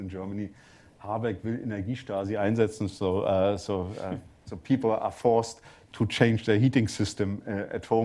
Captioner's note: german